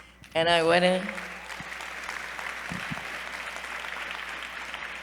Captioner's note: applause